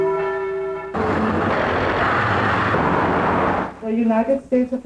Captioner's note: traffic roaring